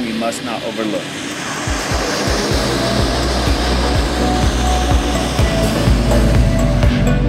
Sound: sound of Pilatus PC-12 taxiing; sound of Pilatus PC-12 for sale taking off

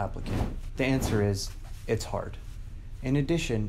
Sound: whooshing

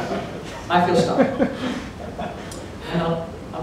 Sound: laughter

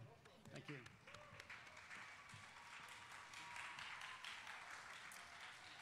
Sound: audience applauding

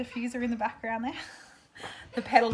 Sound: laughs

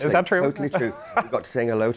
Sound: laughs

